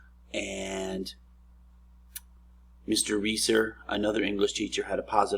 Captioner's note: smacks lips